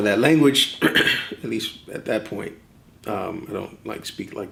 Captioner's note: clears throat